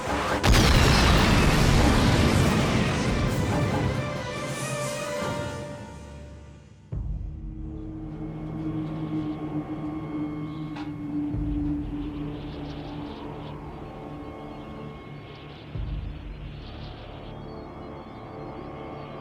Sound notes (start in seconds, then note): 0.2 explosion booms; 6.7 ominous music playing; 11.2 wind whistling